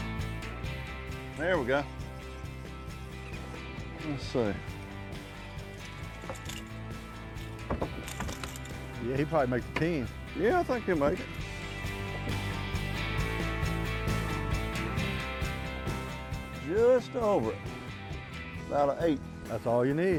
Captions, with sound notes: Let's see. (rod clattering) Yeah, he'd probably make a 10. - Yeah, I think he'll make it. (upbeat music) Just over it. About an eight. - That's all you need. (upbeat music)